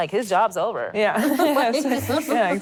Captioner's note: laughter